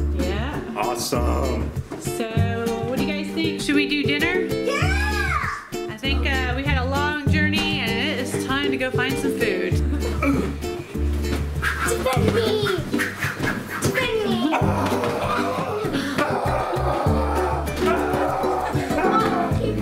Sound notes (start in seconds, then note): 13.2 karate noises